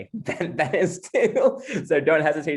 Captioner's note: laughs